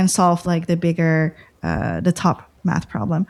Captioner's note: uh